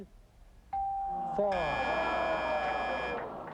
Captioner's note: audience groans